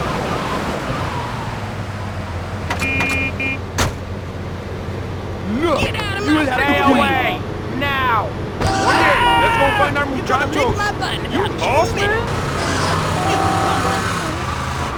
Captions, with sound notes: Now. [YELLING] Let's go find our move. You lost it?